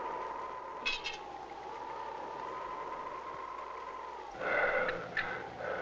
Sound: metal scraping; growling

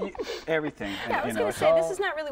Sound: laughter

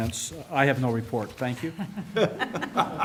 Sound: laughter

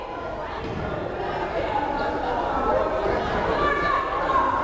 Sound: crowd chattering

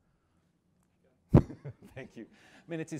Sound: laughs

